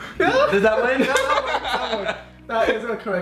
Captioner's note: laughing